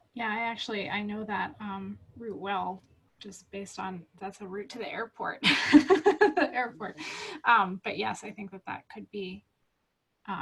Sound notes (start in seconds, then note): 5.4 laughs